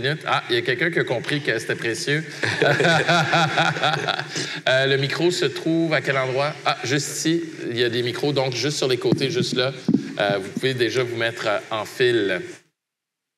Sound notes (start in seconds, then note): 2.3 laughter